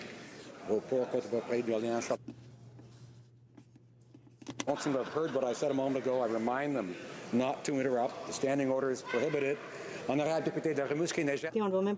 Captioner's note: speaking French